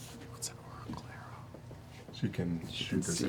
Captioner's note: whispers